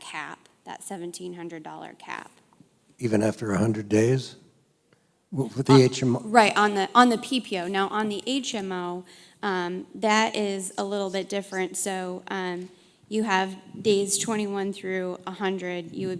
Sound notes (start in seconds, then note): 3.2 voiceover